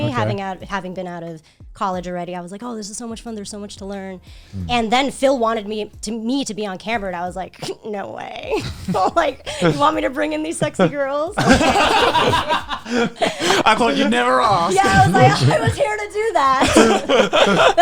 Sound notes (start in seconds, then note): 12.2 all laughing